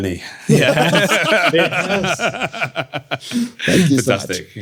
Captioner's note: all laughing